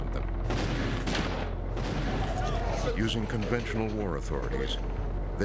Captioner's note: explosions